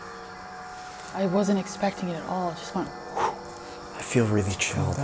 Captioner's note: wind noise